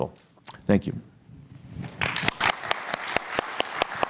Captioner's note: applause